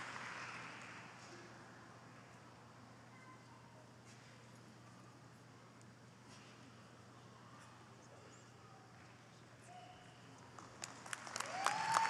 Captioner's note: applause